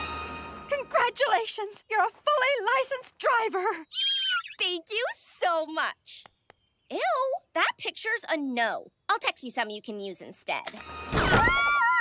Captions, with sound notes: Congratulations. You're a fully licensed driver. [squealing] Thank you so much. Ew. That picture's a no. I'll text you something you can use instead. [laughing]